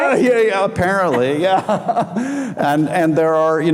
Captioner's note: laughing